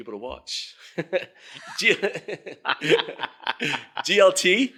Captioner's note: laughing